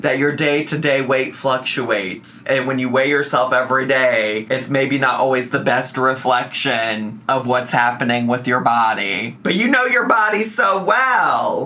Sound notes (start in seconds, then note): none